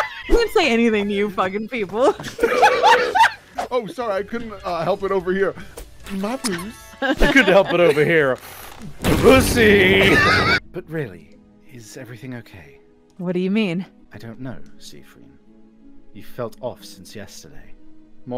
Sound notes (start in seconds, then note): 2.2 laughter